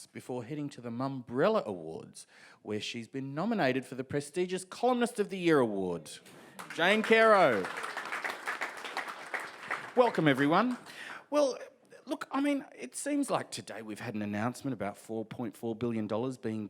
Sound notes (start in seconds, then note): 6.5 audience applauds